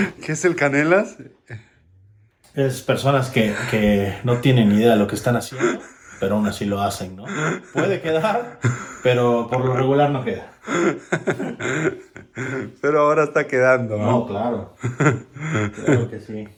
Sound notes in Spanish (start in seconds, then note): 7.2 risas